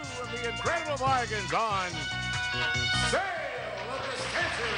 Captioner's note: applause